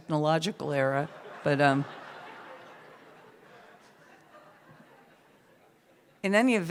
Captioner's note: laughter